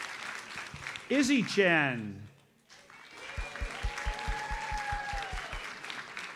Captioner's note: audience applauds; audience applauds